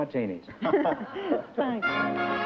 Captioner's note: laughter